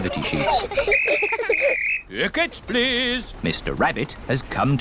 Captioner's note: blows whistle